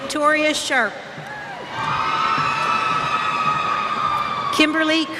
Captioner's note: cheers